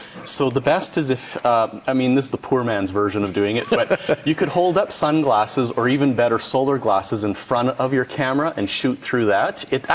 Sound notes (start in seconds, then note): 3.5 laughs